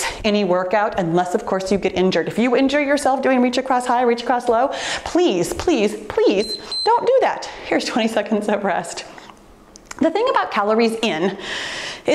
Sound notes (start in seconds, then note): 6.3 timer beeps